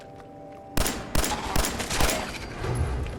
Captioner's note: blam! blam! blam! blam!